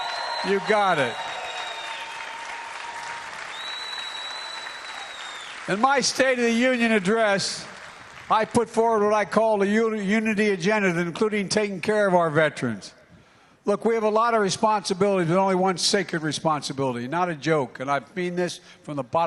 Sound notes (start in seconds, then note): 6.7 applause